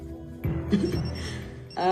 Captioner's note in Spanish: Timbre del celular